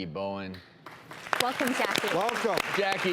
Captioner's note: audience applauds